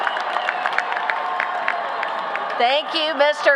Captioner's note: applause